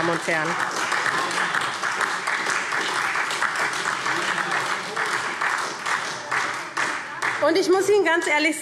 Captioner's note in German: Beifall SPD, Freie Demokraten und vereinzelt DIE LINKE